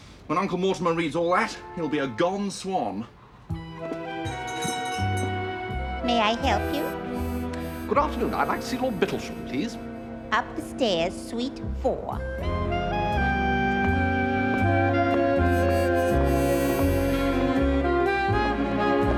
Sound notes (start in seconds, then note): 4.2 door bell jangles